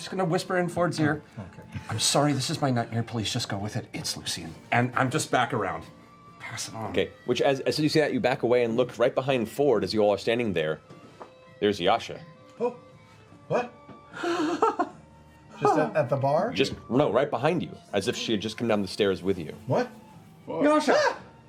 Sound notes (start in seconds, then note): 14.2 nervous laugh